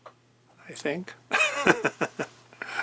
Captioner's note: laughs